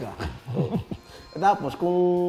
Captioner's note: chuckles